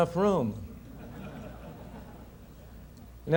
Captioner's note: audience laughter